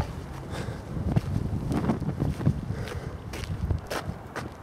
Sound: labored breathing

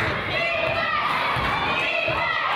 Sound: claps

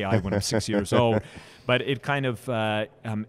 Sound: laughs

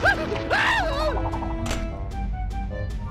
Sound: screaming

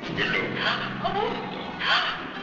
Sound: speaking in a foreign language

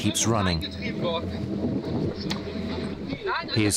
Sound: speaking rapidly in German

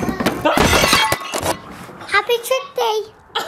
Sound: glass breaking

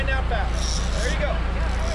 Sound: reel cranking

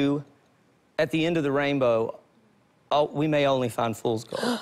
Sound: gasps

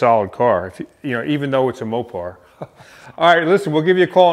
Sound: laughing

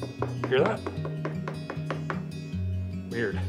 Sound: knocking continues

